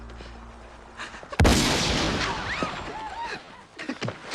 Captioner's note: gunshot